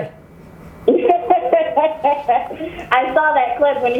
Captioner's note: woman laughs